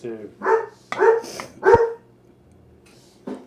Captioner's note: dog barking three times